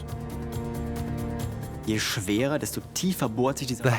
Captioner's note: speaks German